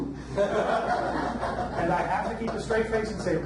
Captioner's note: audience laughs